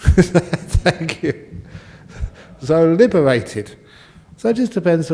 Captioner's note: laughs